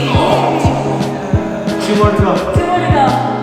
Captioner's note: groans